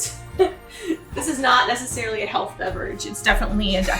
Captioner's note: laughs